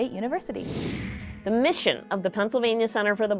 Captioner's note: computer whooshing